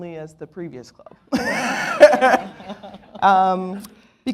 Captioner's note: laughs